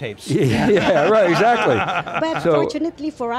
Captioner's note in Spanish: risas de grupo; risas